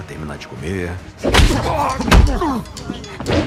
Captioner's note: both grunting; grunts, groans